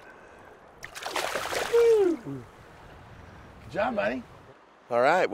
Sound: chuckling; fish splashing

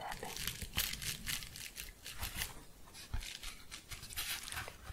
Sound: gentle crinkling

